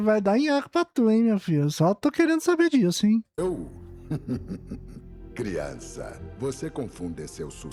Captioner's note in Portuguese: risadas